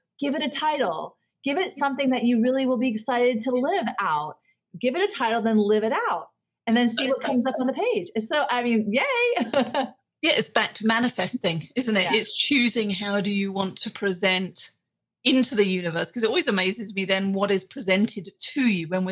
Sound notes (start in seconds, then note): 9.4 laughs